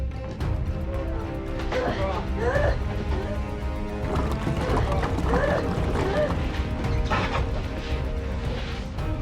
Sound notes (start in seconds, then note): 1.8 Maggie moaning; 4.7 dramatic music